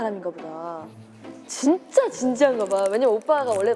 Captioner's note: crinkling sounds